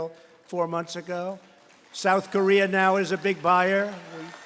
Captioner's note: applause